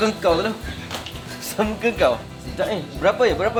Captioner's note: laugh